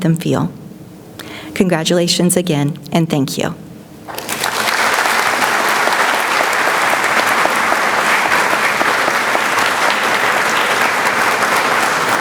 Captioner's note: clapping